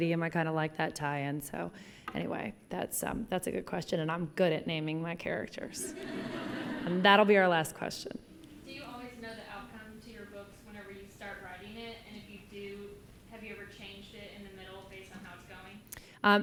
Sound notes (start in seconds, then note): 5.8 laughter